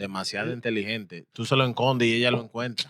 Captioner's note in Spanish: Hablando en idioma extranjero